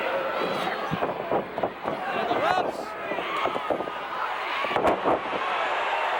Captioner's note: audience drowning out announcer